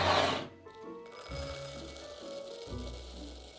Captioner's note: dried lentils pouring